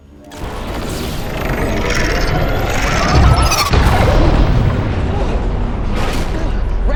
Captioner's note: electricity screeching